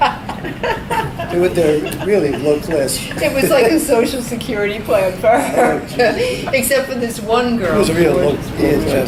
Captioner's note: both laugh; laughs